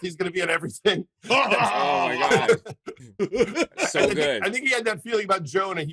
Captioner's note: imitates seth rogen's laugh